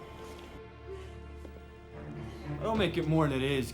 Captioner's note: breathing heavily